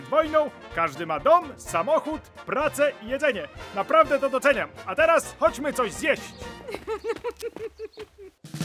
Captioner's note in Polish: śmiech